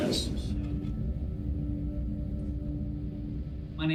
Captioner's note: ringing boom